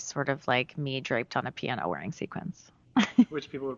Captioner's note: laughs